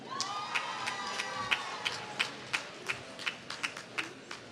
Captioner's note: applause